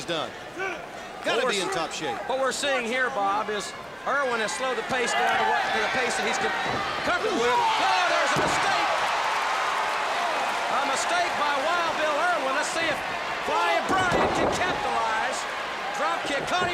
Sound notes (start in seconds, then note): 10.9 crowd cheering